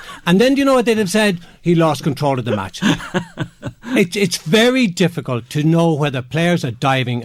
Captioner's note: chuckle